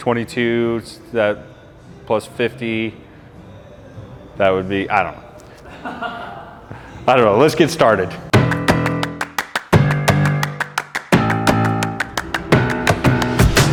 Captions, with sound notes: 22... plus 50. That would be, I don't know. (person laughing) I don't know. Let's get started. (upbeat music)